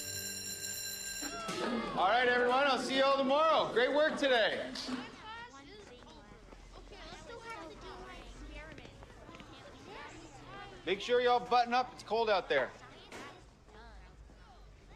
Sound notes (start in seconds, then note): 0.0 bell ringing; 5.0 kids chattering; 9.6 chattering